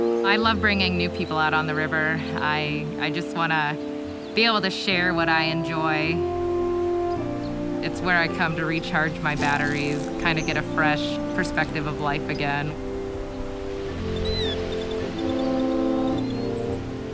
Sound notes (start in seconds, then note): 14.0 birds calling